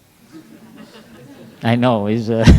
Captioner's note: laughter